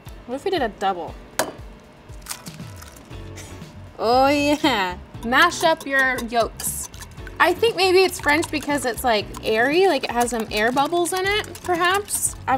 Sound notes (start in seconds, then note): 2.2 eggs cracking